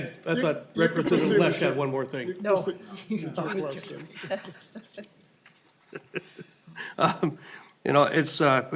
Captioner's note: laughing